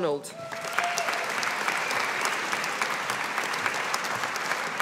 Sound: audience applauding

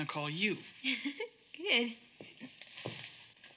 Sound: giggling

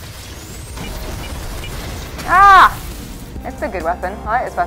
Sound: lasers firing; exploding; yelling

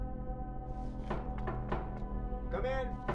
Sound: knock at door

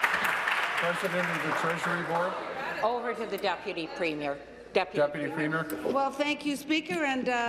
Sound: applause

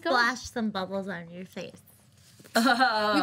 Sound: laughs

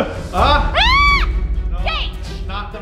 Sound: screaming

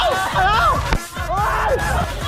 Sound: screaming from coldness

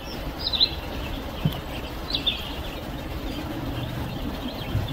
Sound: birds chirping

